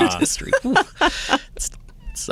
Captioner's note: laughing